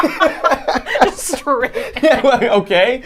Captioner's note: both laughing